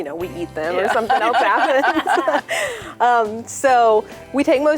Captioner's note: laughing